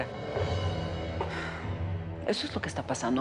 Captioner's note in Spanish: Suspiros